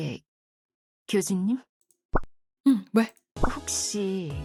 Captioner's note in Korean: 목을 가다듬음